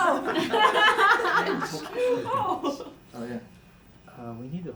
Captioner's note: laughing